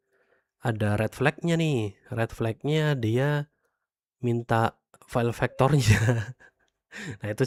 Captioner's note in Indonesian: tertawa